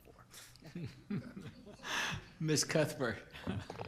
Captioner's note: group laughter